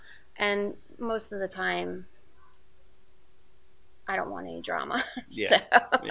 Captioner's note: laughs